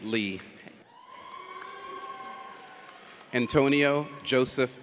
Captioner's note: audience cheers